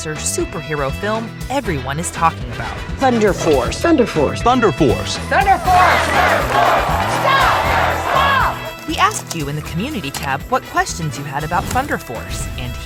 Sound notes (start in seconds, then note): 5.1 crowd